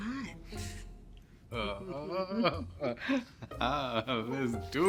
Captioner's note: Ian laughs